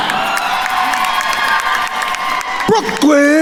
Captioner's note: attendees cheering and applauding